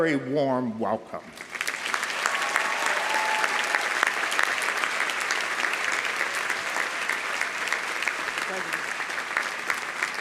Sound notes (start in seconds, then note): 1.4 audience applauding; 1.7 audience cheering